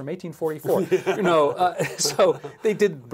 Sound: laugh

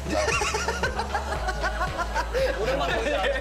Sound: suddenly bursts out laughing

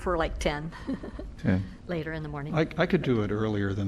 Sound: laughter

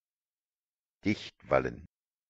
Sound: fast Pronunciation

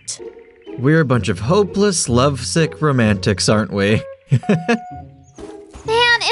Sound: chuckles

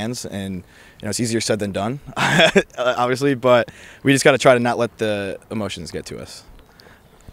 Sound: laughs

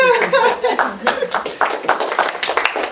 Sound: audience clapping

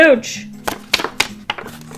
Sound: paper flapping

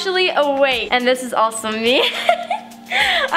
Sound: laughs

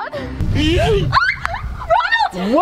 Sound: screams

